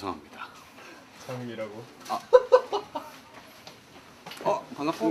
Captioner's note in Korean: 웃음